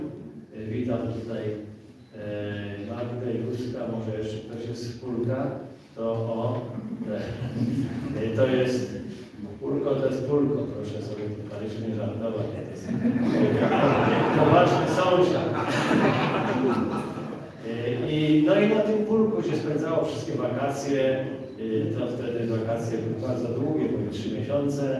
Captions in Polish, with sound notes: Witam tutaj Magdę, Józka, może jeszcze ktoś jest z Pólka? O! Pólko to jest Pólko, proszę sobie w Kaliszu nie żartować, bo to jest poważny sąsiad. (Śmiech z sali) No i na tym Pólku się spędzało wszystkie wakacje. Wtedy wakacje były bardzo długie, bo i trzy miesiące,